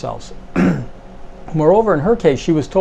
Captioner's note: clears throat